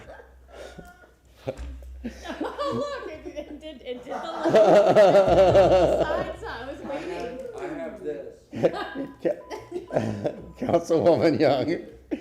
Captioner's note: laughter